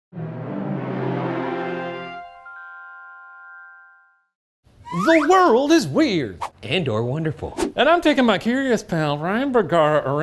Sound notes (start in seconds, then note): 4.8 slide whistle tooting; 7.5 scene whooshing